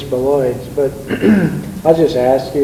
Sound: clears throat

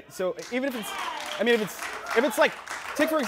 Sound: audience cheers

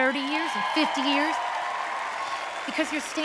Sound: cheering

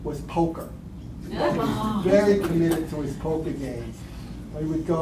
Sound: laughter

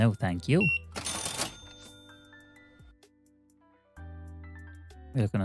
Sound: beeping

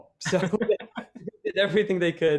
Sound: laughs

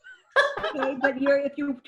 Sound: laughs

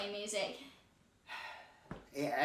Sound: sighing

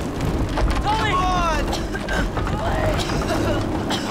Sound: Kai coughing

